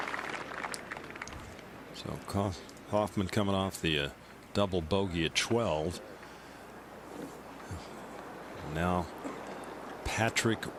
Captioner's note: applause